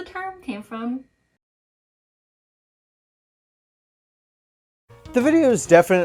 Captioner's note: more silence